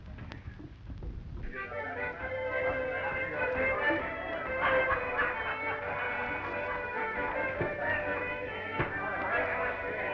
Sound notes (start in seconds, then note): 1.4 lively music; 1.4 patrons chattering